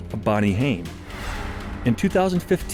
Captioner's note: whoosh